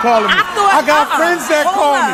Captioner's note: audience exclaims in disbelief